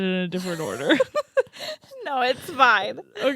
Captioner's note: giggling